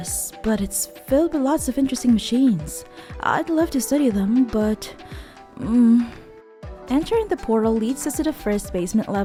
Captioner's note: groan